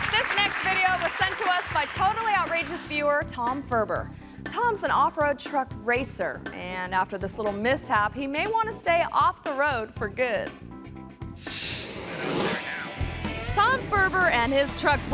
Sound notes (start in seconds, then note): 11.4 graphic whooshes